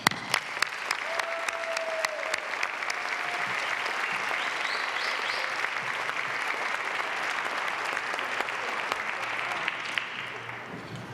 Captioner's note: applause